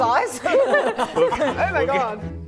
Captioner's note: laughing